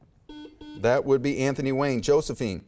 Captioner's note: buzzer beeps